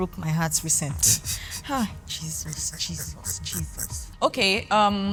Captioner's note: laughs